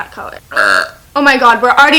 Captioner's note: burp